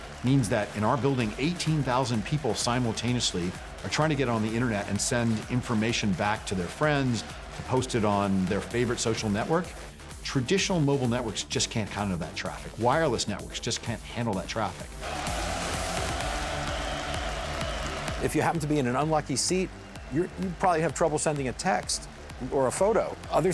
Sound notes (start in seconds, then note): 15.2 cheering